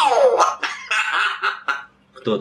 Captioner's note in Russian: Григорий смеётся